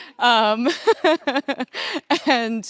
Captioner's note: laughing